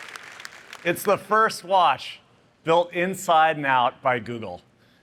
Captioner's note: applause